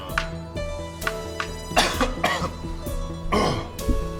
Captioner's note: cough